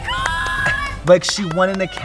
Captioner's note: hands clap